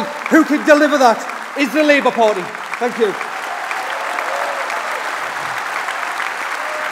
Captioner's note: applause